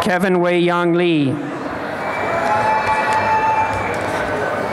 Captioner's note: applause and cheering